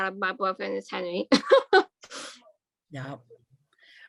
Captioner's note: laughs